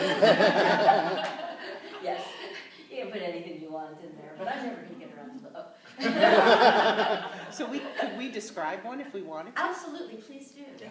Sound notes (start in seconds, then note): 0.0 laughter; 6.0 laughter